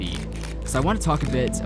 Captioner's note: camera clicking